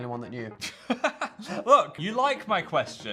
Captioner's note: Phil laughs